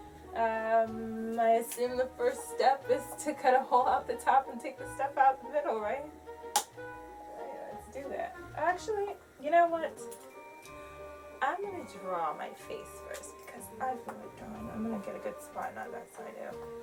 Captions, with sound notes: um I assume the first step is to cut a hole out the top and take the stuff out the middle right? (slaps pumpkin) alright let's do that actually... you know what...I'm going to draw my face first because I feel like drawing I'm gonna get a good spot not that side ew